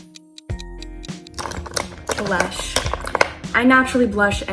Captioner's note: ticking clock